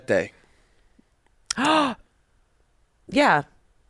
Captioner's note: gasps